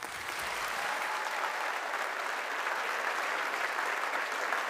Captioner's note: audience applauding